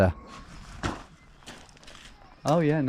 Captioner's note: feet stomping